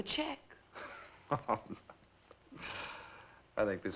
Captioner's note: chuckles